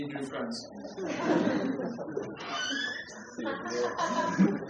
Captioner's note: laughter